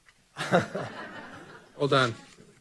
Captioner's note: all laughs